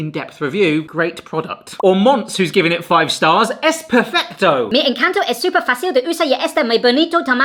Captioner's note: speak spanish high pitched